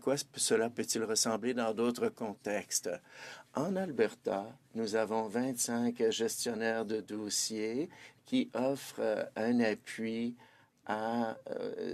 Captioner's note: speaking French